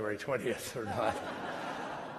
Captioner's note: laughter